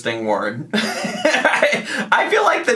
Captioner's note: laughing